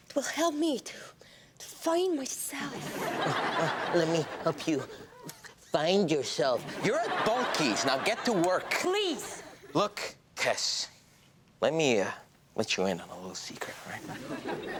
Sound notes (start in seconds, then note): 2.6 audience laughs; 6.6 audience laughs; 14.1 audience laughs